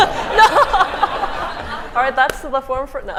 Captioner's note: laughter